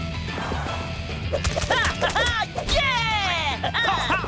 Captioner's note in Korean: 기합 소리